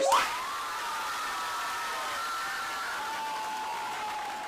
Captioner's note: cheering